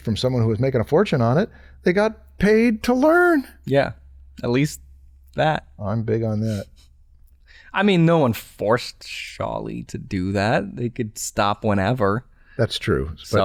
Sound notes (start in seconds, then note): none